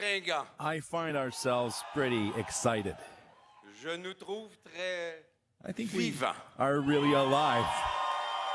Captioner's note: speaking French